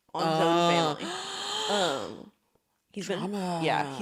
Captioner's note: gasps